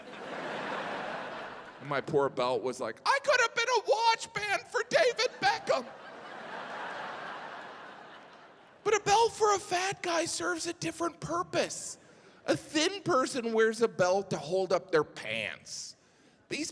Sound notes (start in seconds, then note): 0.0 audience laughing; 4.9 audience laughing